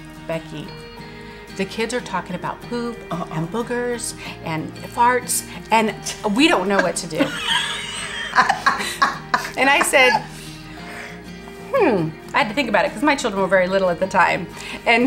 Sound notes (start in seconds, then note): 6.7 both laughing